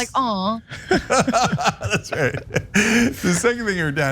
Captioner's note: laugh